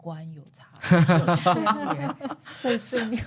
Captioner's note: laughs